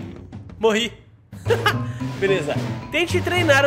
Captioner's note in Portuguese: risos